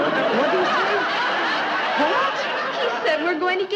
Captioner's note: audience laughing